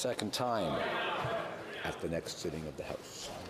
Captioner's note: speaking French